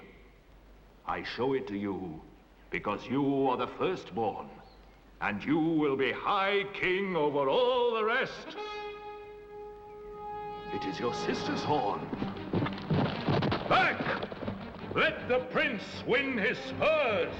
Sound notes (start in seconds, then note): 8.4 horn blowing